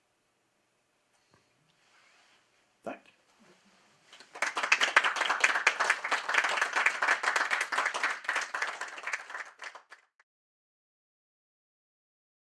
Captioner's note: applause